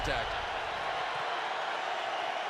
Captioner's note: crowd cheering